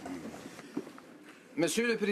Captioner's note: speaking French